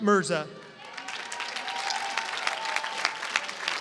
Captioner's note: applause